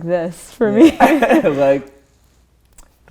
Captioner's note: laughter